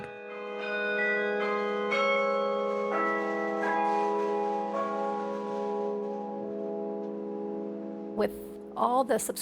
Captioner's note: bells ringing